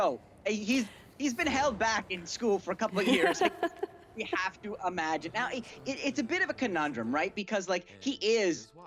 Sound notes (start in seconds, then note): 2.8 laughs